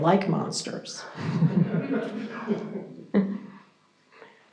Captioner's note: audience chuckles